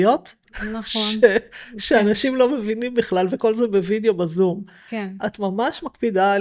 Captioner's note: snorts of contempt